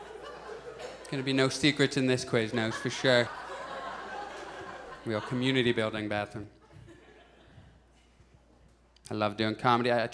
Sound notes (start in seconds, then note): 2.2 audience chuckles